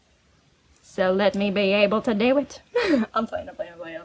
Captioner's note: high pitch southern accent; laughs